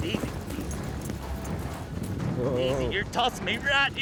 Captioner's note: hoofbeats